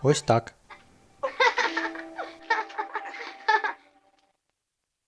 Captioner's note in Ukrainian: сміється